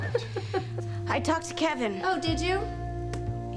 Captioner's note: cassie laughs